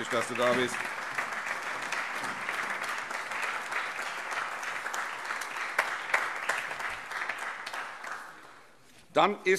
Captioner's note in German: Allgemeiner Beifall